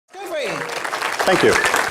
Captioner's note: audience applause